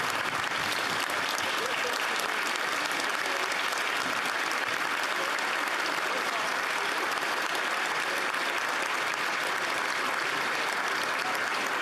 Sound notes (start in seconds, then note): 3.9 cheering; 4.9 applause